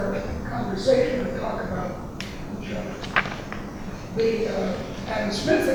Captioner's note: rustling drowns out speaker